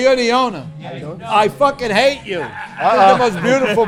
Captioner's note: laughing